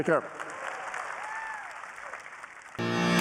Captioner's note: applause